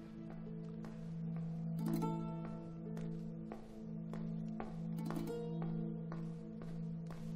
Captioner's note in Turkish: Ayak sesi